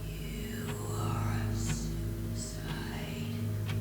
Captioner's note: voices and clock continue